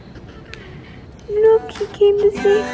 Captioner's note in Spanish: gatita maulla